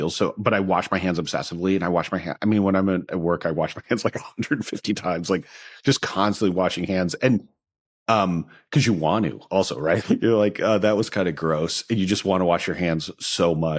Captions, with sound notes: But I wash my hands obsessively, and I wash my hands-- I mean, when I'm at work, I wash my hands... (CHUCKLES) ...like, 150 times, like just constantly washing hands. And, um... 'Cause you want to also, right? You're like, "That was kind of gross." You just want to wash your hands so much.